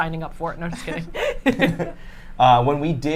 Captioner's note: laughs